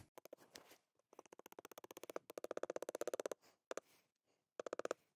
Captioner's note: the sound of hammering the pen, click, click, click